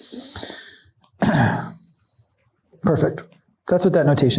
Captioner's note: coughs